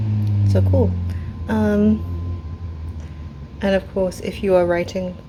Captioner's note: loud motorbike